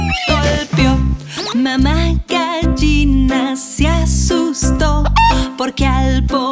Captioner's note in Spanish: Sonido de gallina